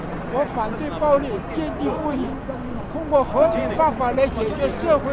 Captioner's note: speaks in a foreign language